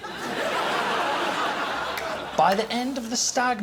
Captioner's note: laughter